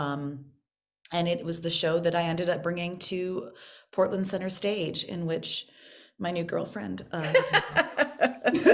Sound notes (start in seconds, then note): 7.2 laughing